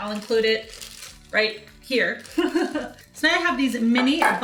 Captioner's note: laughs